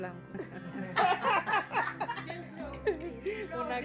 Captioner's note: laughing